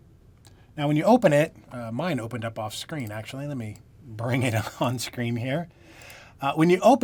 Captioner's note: laughter